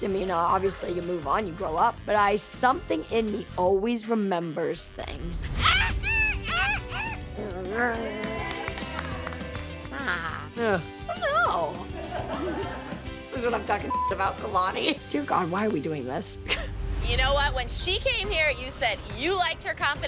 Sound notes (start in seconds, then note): 5.1 squawking; 7.9 crowd cheering; 11.8 laughter